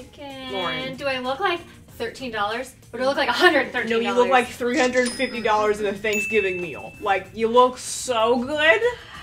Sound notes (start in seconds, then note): 4.8 ding; 4.9 cash register sound